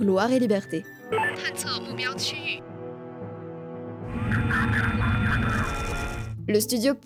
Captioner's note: excerpt from the game, OST and combat sound effects